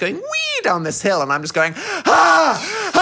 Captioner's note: screams